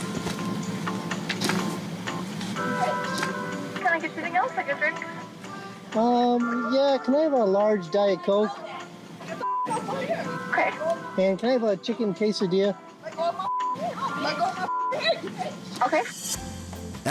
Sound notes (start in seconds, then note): 2.6 woman 1 yells; 13.0 women speaking